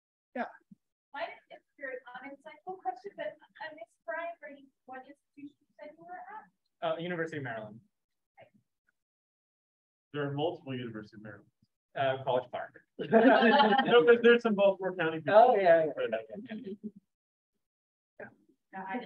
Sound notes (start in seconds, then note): 13.0 laughter